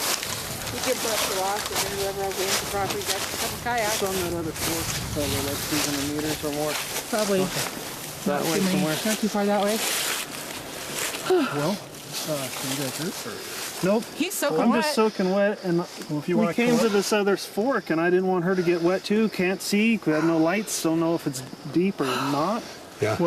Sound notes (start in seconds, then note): 0.3 indistinct chatter; 11.2 sighs